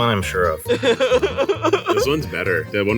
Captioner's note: all laugh